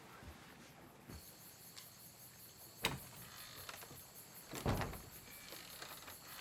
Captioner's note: crickets chirping